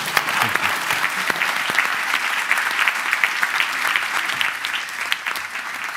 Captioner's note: applause